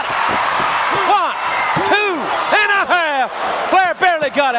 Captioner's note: countdown thudding